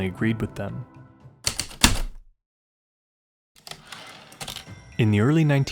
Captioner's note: typewriter clicks and slide